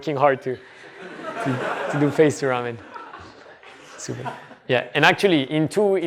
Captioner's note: laughter